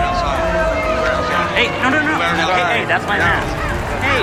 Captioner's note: crowd boos